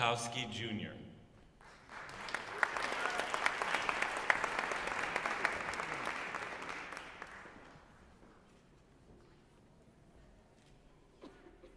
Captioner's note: applause